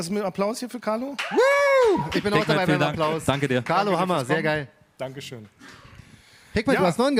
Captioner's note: applause